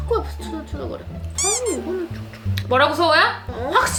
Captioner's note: whining